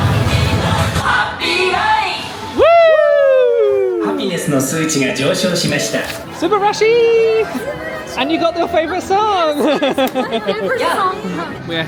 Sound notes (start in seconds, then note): 4.3 announcer speaking Japanese; 10.8 laughing